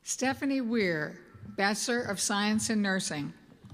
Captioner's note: none